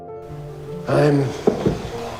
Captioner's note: voiceover